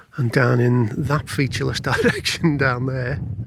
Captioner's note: laughs